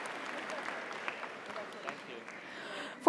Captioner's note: audience cheers; audience applauds